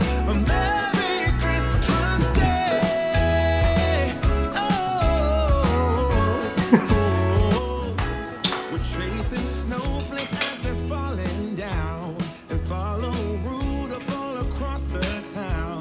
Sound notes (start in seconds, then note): 0.0 laughing; 6.2 chuckles; 8.4 lips smacking